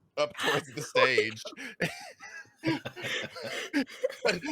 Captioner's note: laughing